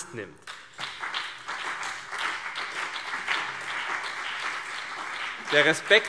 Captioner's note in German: Beifall CDU und BÜNDNIS 90/DIE GRÜNEN